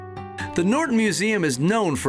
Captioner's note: bells ringing